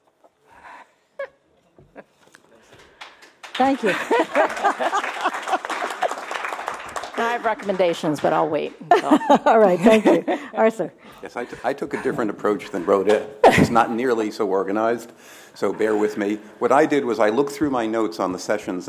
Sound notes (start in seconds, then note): 9.4 applause